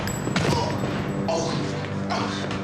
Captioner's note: grunting